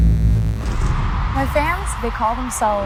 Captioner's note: pulsing music; audience cheering